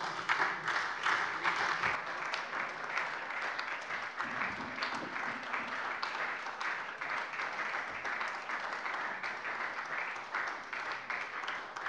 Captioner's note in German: Beifall SPD